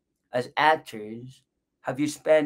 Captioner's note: none